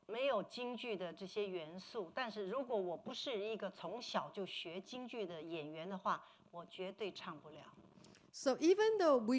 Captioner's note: speaking Mandarin